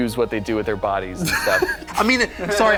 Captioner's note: laughter